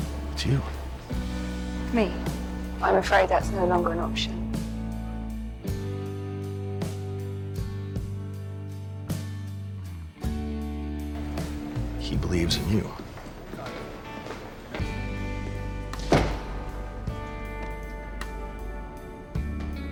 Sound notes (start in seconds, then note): 12.2 voiceover; 16.0 door shuts